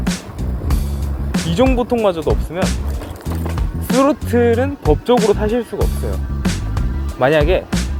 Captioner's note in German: Throttle